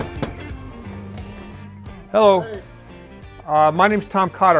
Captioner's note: knocking on door